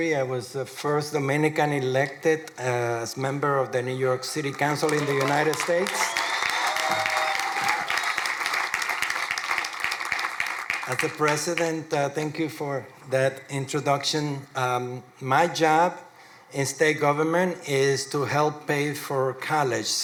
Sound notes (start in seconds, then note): 7.3 crowd applauding